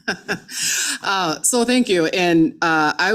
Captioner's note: chuckles